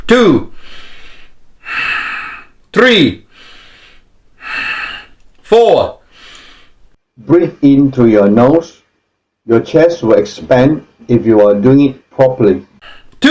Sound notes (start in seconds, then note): 0.3 exhales; 0.4 inhales; 2.8 exhales; 3.0 inhales